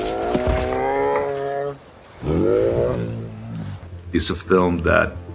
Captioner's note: bear grunting; bear growling